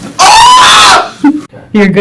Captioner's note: screaming